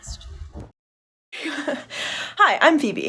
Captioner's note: chuckles